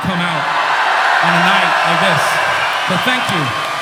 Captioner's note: crows cheers